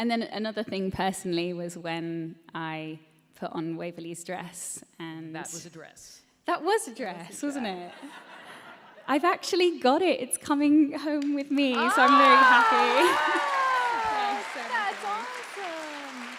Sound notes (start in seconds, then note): 7.3 laughter; 11.6 applause